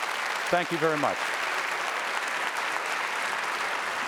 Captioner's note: applause